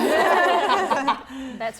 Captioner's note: laughter